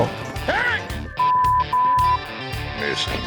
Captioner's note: shouting, swearing